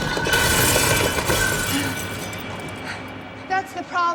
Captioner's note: loud crash